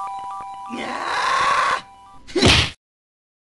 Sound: Sonic screams in anger

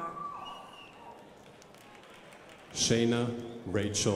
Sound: crowd applauding

